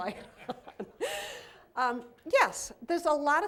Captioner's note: laughter